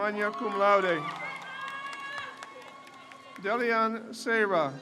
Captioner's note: crowd cheers